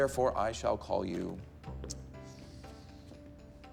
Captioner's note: takes a breath